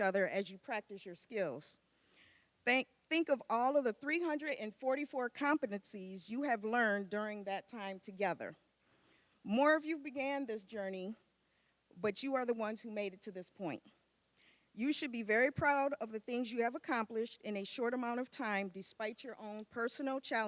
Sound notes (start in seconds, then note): none